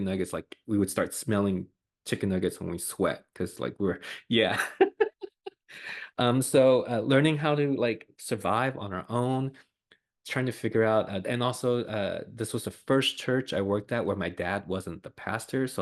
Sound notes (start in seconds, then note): 4.0 laughs